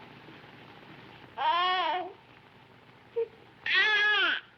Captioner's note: child cooing